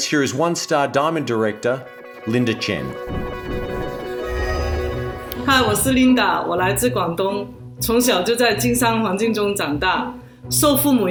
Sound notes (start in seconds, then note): 2.9 bright music; 5.6 speaking in foreign language